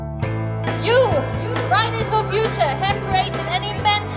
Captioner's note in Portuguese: De alto-falantes